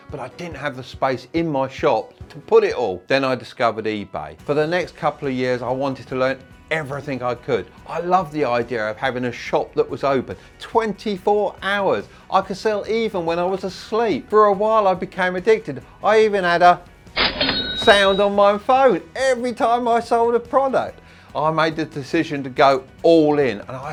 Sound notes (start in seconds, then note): 17.2 cash register opening